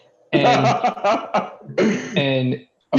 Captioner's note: laughter